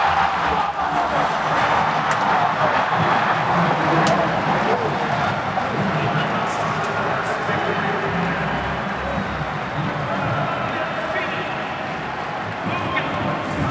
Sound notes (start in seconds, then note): 3.9 cheering